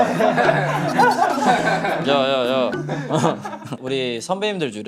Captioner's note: laughing